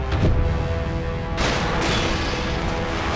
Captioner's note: thudding